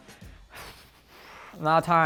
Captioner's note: sighing